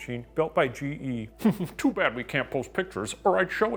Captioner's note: chuckles